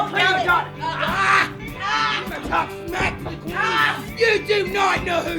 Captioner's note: both grunting